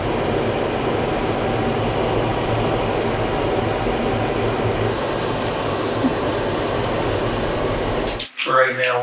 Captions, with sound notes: [Machine noise] [Tractor sound] For right now,